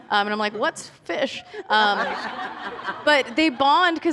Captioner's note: laughter